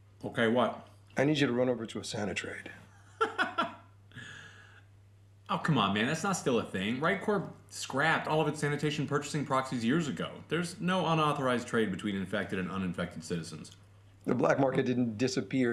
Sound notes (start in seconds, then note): 3.0 incredulous laugh